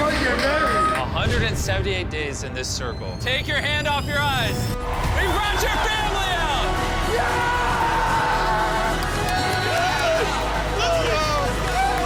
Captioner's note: screaming